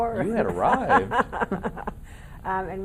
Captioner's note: laughing